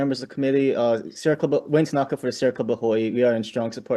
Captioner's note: speaking Hawaiian